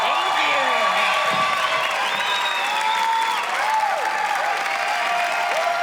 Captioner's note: cheers and applause